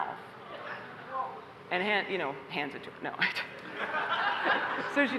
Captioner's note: laughter